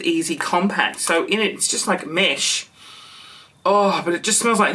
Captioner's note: sniffs